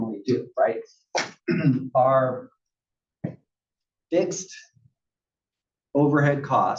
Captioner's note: cough